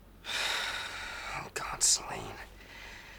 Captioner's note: sighs